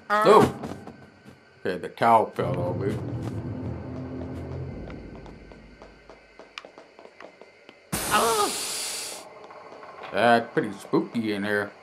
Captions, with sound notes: Oh! Okay, the towels fell over [Steam hissing] [Luigi scream] Yeah, it's pretty spooky in here